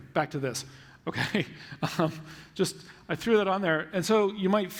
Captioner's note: laughs